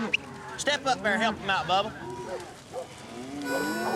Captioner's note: whistles; dogs barking